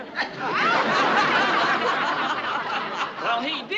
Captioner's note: residents laugh; audience laughs